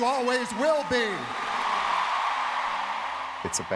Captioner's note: cheers and applause